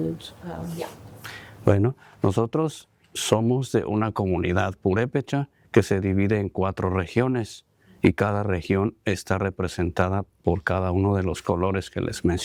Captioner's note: speaking spanish